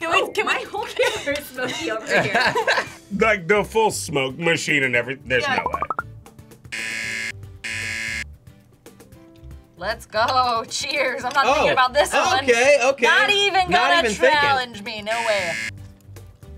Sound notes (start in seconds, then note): 0.8 both laugh; 7.6 buzzer rings; 15.1 buzzer rings